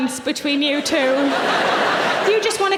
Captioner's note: audience laughing